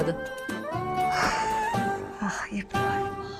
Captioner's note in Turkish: İç çekme sesi